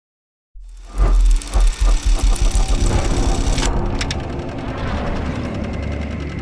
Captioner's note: movie projector clicks and winds down